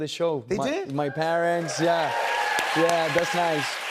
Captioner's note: cheers and applause